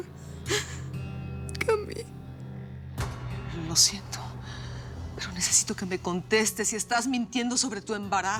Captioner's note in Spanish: sollozos